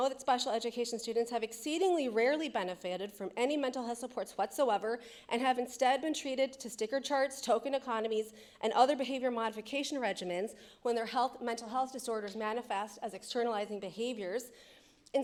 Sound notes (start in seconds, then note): none